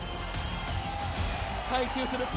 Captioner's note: crowd cheering